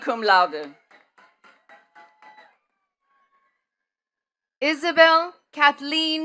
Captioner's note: attendees clapping